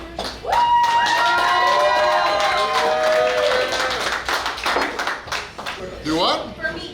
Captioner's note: cheering & Clapping